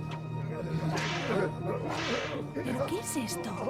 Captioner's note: whip cracking